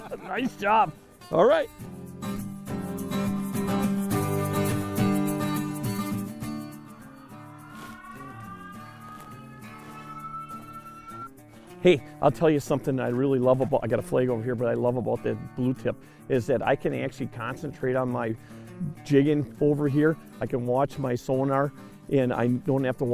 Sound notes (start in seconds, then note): 3.1 calm music; 6.8 siren